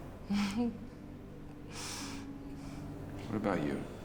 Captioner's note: Nadia chuckles